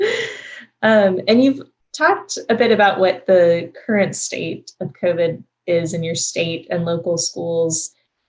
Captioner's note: laughs